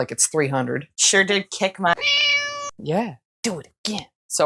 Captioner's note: meow